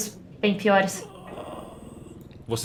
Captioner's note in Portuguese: Gemido